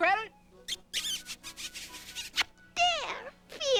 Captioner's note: smooch